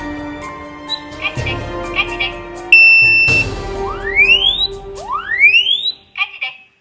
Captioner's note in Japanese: 警報音